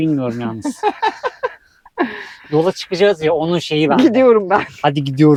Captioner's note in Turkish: kahkaha